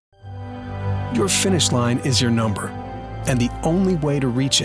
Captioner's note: voiceover